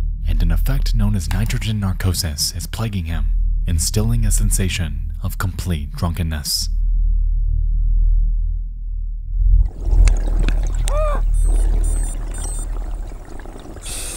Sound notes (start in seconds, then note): 9.5 water burbling; 10.6 wheezes; 11.9 alarm beeps